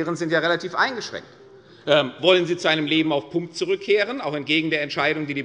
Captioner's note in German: none